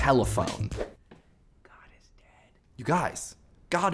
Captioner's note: whispering